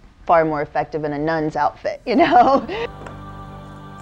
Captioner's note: laughing